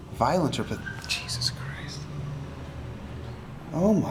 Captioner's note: tires squeal